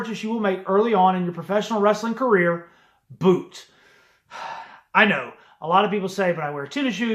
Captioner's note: sigh